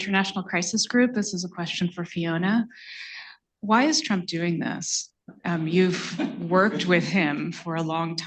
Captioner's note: laughter